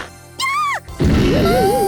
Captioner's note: panicked cry